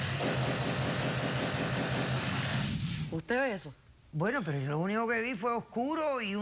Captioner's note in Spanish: tiroteo intenso